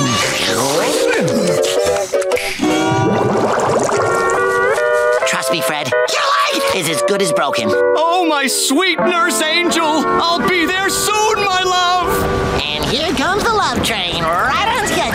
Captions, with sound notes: [snapping] Trust me, Fred, YOUR LEG is as good as broken. Oh, my sweet nurse angel. I'll be there soon, my love! And here comes the love train, right on schedule!